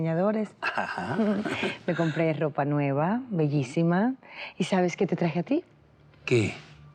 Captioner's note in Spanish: risas